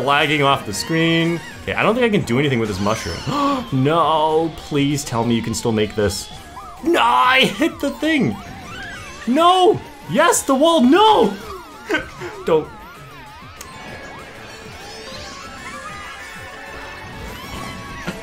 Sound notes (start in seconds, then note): 13.6 laughs